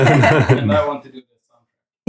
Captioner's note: laughing